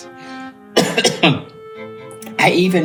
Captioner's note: coughs